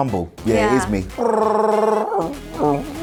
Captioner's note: Chewbacca impression